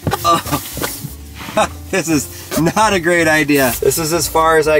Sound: laughs

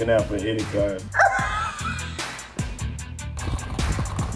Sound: laughs

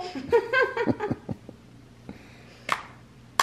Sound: parents laugh; girls clap hands

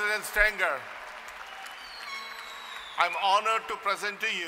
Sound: applause

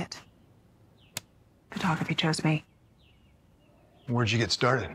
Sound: clicks closed

